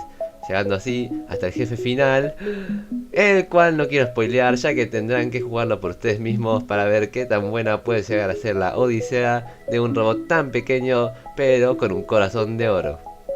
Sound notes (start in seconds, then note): 2.3 gasp